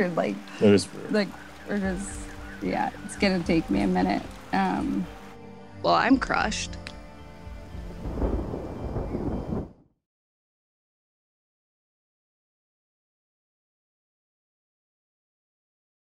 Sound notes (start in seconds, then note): 7.4 thunder rumbling